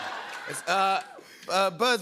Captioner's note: laughter